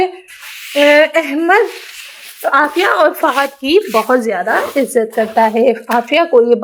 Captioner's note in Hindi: नाक से की जाने वाली आवाज़